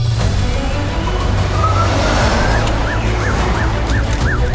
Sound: emergency Sirens

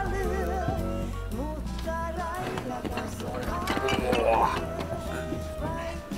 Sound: bottles clinking in the backpack

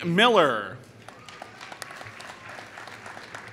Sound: applause

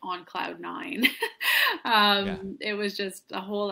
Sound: laughs

